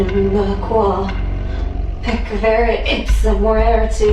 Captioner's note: foreign language